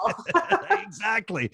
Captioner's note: both laughing